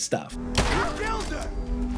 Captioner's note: intense ambient music; gunshot fires